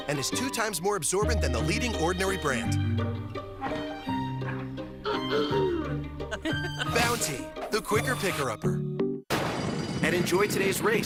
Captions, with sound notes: and is 2x more absorbent than the leading ordinary brand. [Son loudly clears throat] [Mom and dad laugh] Bounty, the Quicker Picker Upper. [Starting pistol and bells ringing] And enjoy today's race.